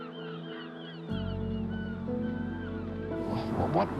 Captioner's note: gulls crying